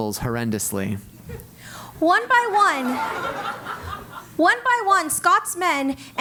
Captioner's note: laugh